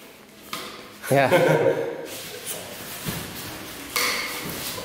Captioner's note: laughs